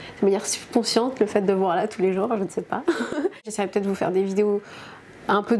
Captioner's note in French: rires